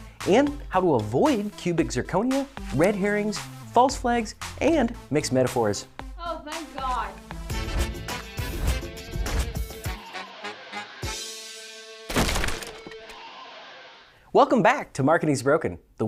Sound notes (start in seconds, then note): 7.7 upbeat instrumental music; 12.0 crashing